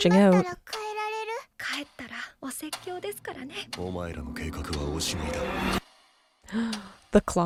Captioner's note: clock ticking; foreign language